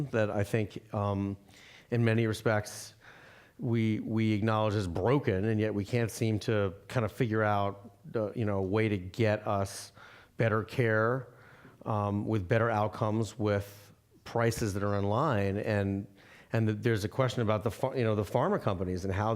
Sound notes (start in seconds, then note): none